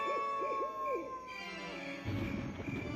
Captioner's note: crickets chirping; thunder clapping